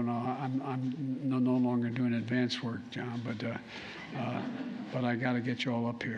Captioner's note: laughter